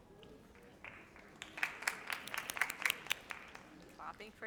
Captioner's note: audience applauds